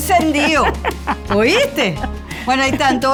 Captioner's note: laugh